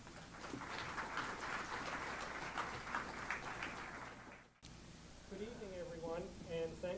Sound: applause

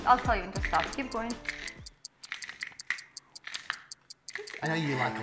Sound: clock ticking

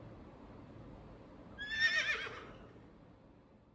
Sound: horse neigh

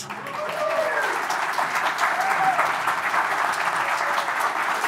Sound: audience clapping and cheering

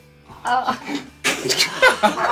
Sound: laughing

